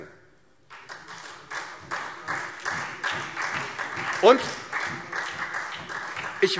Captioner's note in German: Beifall SPD